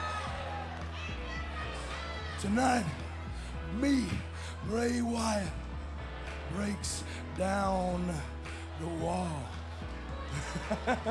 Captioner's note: crowd cheering